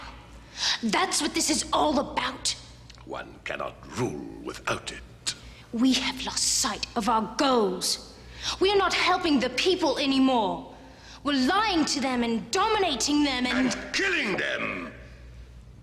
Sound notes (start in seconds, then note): none